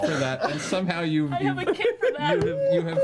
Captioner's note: laughs